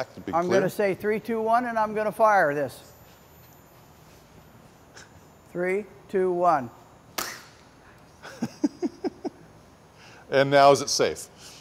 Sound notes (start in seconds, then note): 7.1 snap; 8.2 laughs